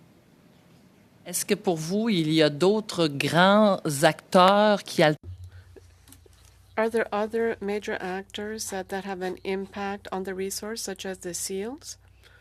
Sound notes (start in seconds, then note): 5.6 speaking French